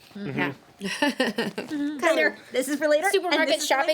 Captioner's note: woman laughs